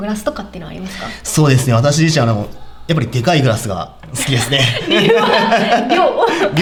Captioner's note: laughs